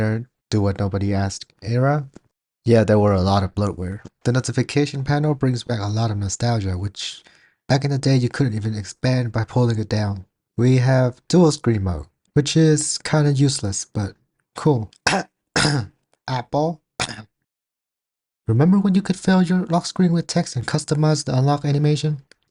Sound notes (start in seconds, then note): 15.5 cough